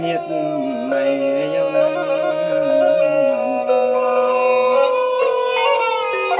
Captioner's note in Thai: เสียงหัวเราะ